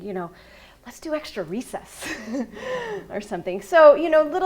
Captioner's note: laughs